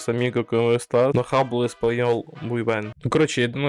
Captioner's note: in spanish